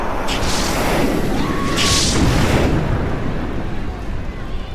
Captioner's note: wind whistling